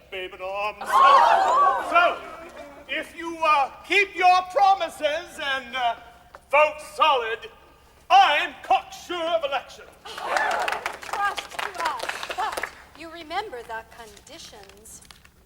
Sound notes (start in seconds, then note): 0.8 all exclaim; 10.1 all clap